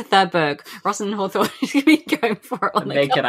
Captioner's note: laughing